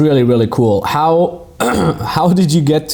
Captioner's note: clearing throat